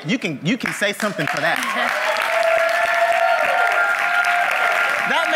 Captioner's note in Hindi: तालियां; वाहवाही